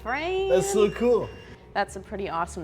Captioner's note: EMF beeping